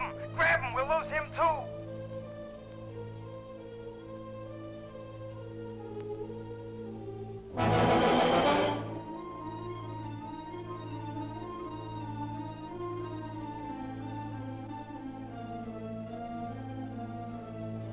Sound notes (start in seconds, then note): 2.8 soft ominous music; 7.5 dramatic music; 7.6 tank hisses; 10.5 ominous music